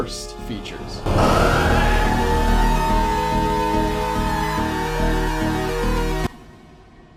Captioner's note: screaming